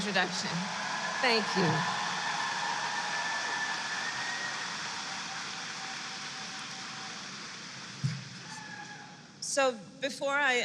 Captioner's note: applause